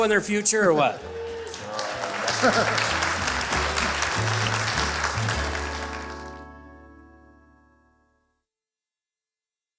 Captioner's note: applause